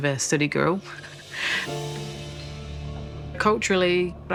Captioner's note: laughs